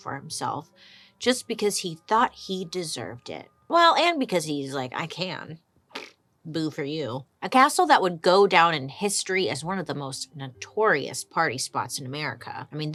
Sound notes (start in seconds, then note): 5.9 blows raspberries